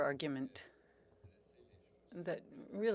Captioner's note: speaking French